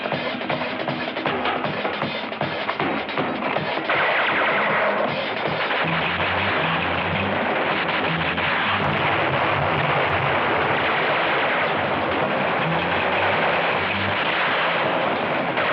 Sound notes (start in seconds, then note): 3.5 bullets whistling; 5.4 explosions booming; 5.4 gunshots; 10.2 gunshots; 10.8 bullets whistling